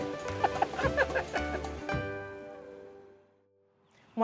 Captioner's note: all laughing